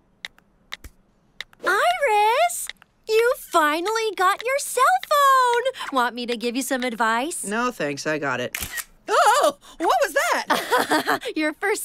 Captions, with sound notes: - Iris, you finally got your cell phone! Want me to give you some advice? - No, thanks. I got it. (Camera clicking) Oh! What was that? (Laughing) - Your first selfie.